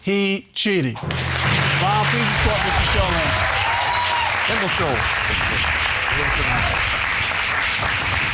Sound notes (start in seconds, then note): 1.0 audience applauding; 4.1 audience cheering